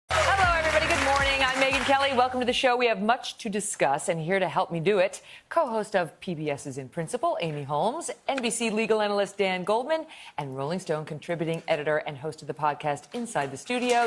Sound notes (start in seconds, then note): 0.1 cheers and applause